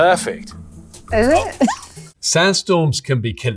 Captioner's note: chuckles